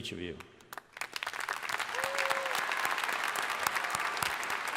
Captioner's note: crowd applauding